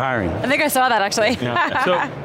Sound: laughing

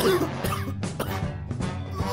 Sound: cough Wheeze

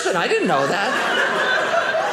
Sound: audience laughing

